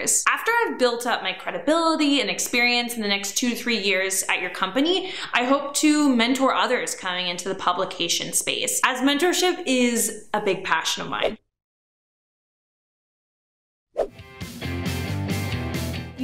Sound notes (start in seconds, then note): 11.1 air whooshing; 14.1 upbeat music